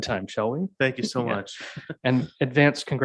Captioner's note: laughs